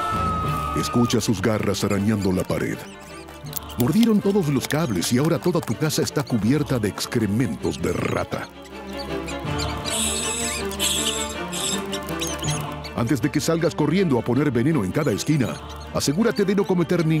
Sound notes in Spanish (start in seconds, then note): 9.6 Chillidos de ratas